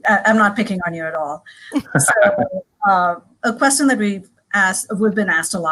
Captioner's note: laugh